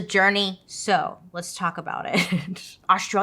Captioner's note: laughs